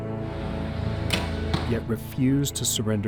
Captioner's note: arrow hitting target